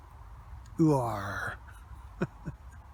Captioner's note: silly farmers voice attempt